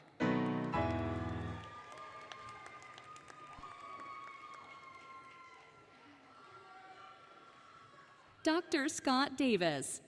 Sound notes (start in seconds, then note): 0.0 applause, Cheering, Music; 1.9 applause, Cheering